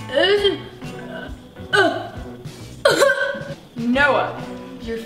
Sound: vocalizing and coughing

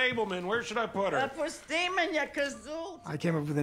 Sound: speaking Hebrew

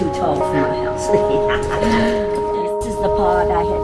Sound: laughs

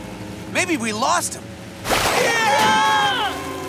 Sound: screaming

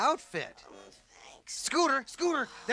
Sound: groans

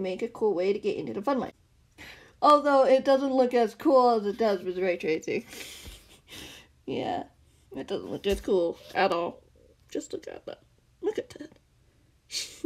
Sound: giggles

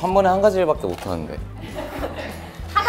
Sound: hahahahahahahaha

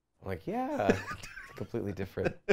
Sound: laughs

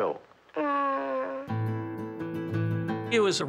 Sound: groaning

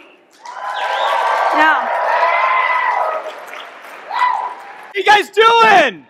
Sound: audience clapping and cheering

